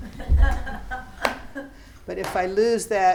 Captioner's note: students laughing